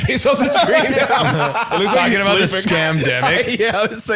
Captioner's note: laughing